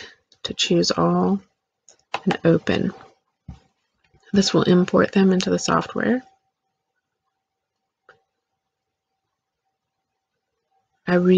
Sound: click

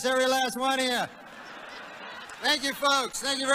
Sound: laughter

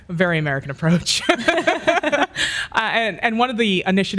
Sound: laughs

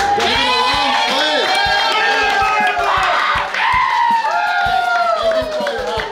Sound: crowd cheering and applauding

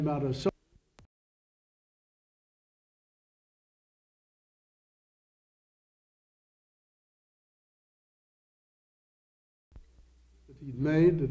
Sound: silent

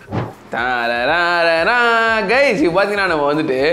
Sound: hummimg

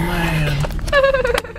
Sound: laughs

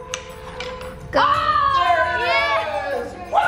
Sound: cheering

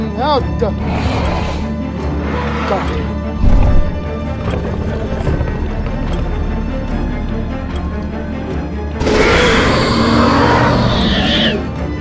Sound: Indominus Rex roars

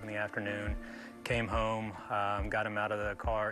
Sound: popping

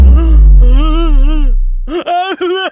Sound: gasps

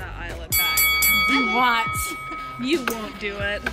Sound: bell dinging

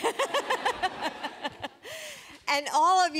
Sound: laughter

